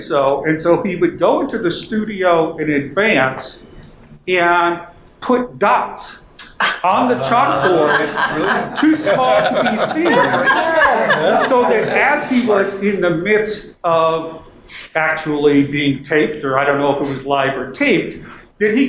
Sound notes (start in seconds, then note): 6.6 panel laughing and murmuring